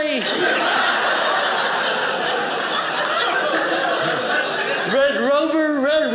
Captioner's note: audience laughing